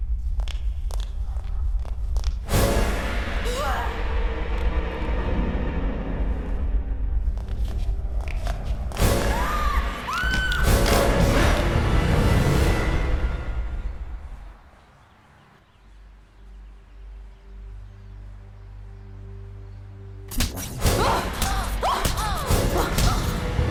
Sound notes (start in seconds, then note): 0.0 footsteps; 3.5 the Girl is frightened and screams; 21.1 girls scream in pain as they are attacked